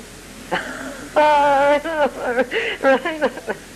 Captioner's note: chuckles